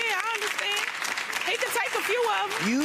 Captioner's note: audience claps